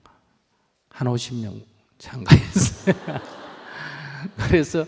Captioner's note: laughter